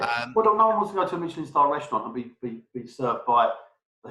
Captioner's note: murmurs